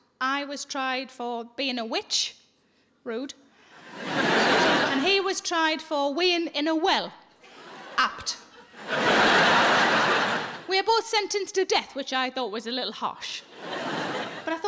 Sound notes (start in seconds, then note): 9.4 audience laughing